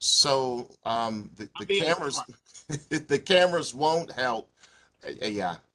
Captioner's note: laughter